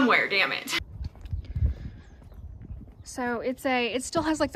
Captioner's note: wind blowing